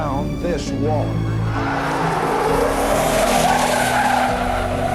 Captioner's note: tires screeching